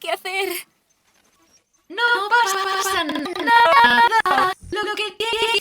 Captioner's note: whimpers; glitching continues